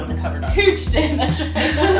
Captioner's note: chuckling